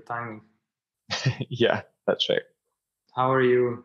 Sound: chuckles

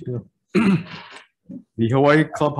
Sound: clears throat

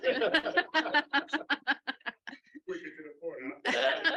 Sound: laughing

